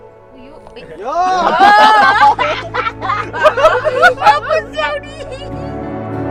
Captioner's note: laughter